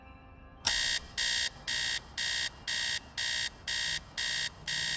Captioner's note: alarm clock beeps